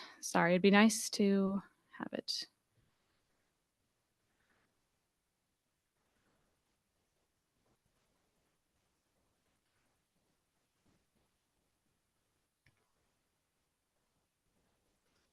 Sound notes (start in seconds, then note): 2.5 silence